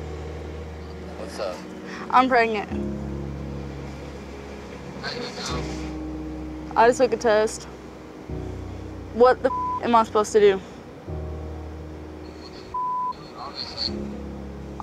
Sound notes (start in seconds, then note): 9.4 beep; 12.2 beep